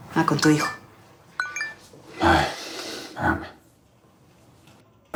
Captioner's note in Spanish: Aviso de mensaje